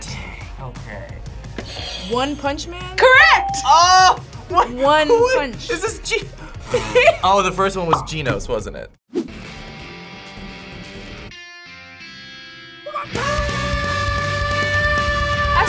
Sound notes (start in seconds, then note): 1.7 buzzer rings; 3.0 bell rings; 9.4 rock music